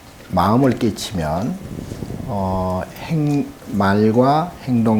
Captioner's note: speaking Korean